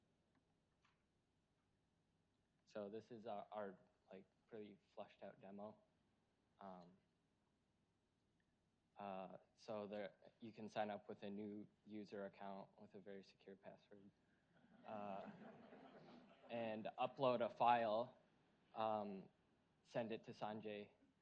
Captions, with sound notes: So this is our like really fleshed out demo. So there you can sign up with a new user account with a very secure password. (audience laughs) And upload a file, send it to Sanjay,